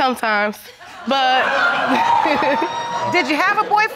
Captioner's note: laughing